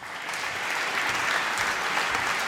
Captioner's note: applause